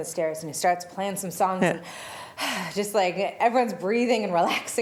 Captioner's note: heavy breathy sound